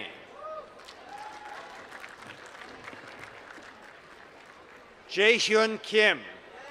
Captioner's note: applause